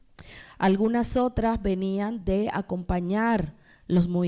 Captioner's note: speaking spanish